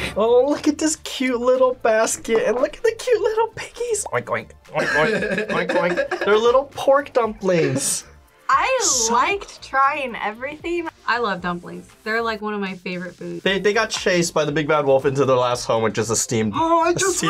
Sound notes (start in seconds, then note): 4.7 laughs